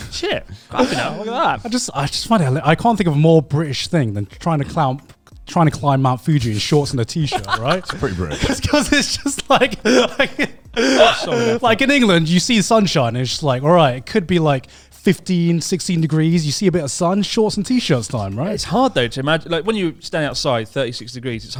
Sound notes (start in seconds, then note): 10.7 laughs loudly